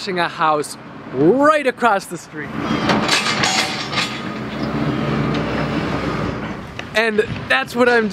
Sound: loud machine noises

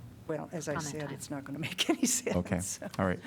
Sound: laughter

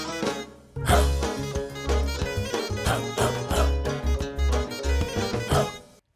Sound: whimsical folk music; person barking to beat

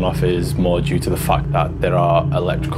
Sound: none

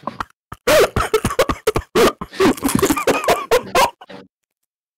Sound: chokes on a crisp

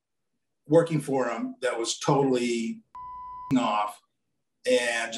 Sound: beep

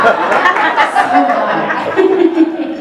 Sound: laughing

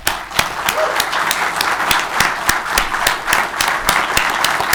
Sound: audience clapping

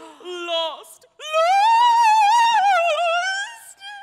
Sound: wailing

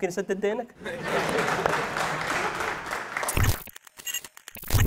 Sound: clapping

